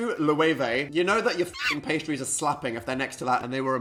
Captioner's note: shriek